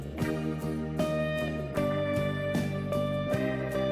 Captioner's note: sound effect of camera